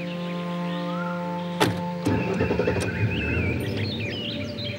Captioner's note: Car door closes; Engine starts